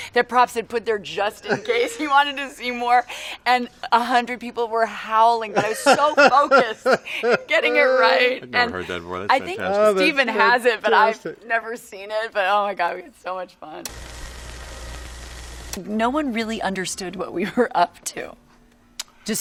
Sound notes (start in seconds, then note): 13.8 projector running